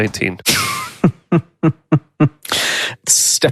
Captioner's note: laughs